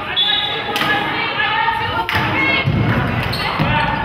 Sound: whistle blows

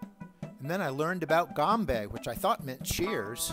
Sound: speaks in foreign language

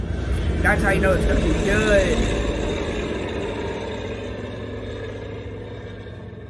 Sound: plane flying

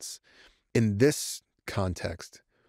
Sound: none

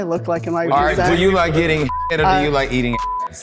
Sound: beep

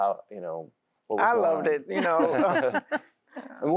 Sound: laughter

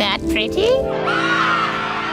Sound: screaming

